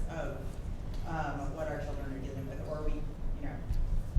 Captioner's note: none